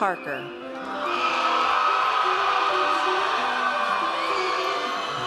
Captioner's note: audience cheers